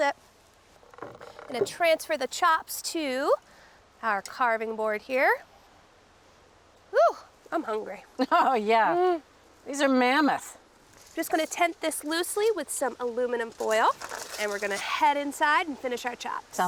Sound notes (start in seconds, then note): 8.0 chuckles